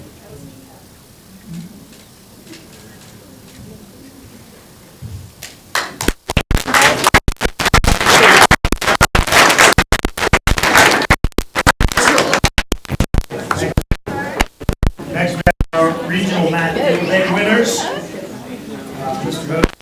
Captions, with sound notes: [crowd talking indistinctly] [crowd clapping] Next, we have our regional math field day winners